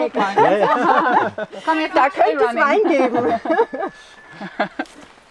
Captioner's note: laughter